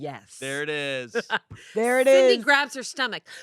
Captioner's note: laughs